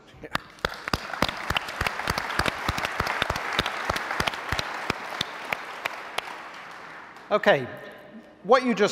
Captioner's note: applause